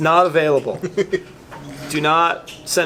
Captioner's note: laughing